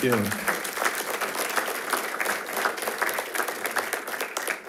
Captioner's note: attendees applauding